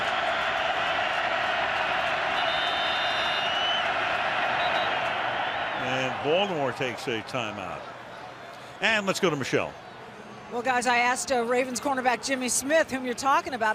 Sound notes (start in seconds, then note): 0.2 crowd cheering; 4.6 whistle